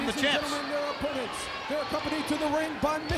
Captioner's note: presenter speaking faintly off mic